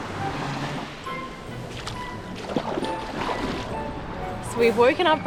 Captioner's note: upbeat quirky music; waves splashing